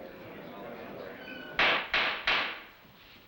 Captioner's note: gavel banging